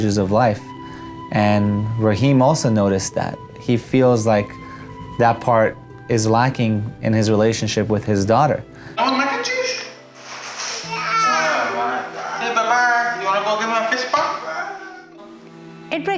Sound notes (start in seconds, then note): 10.8 chatter with daughter